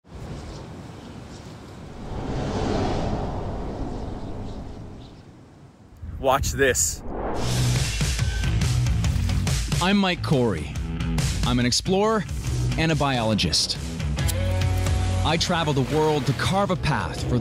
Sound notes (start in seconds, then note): 2.0 air whistles; 7.2 upbeat music